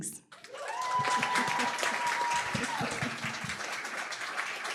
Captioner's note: applause, cheering